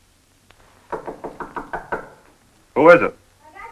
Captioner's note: knocking on door